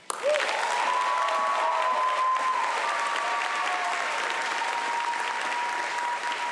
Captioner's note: applause